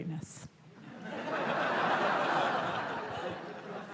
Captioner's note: laughter